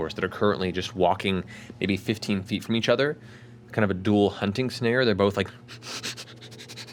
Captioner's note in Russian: принюхивается и рычит